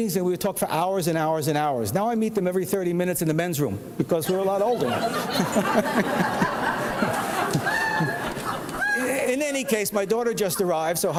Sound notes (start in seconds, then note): 4.2 audience laughs